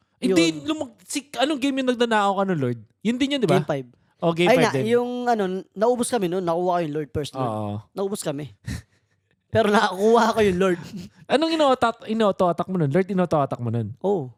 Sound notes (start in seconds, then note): 9.6 laughs